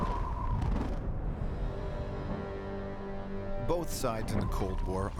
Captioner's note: explosions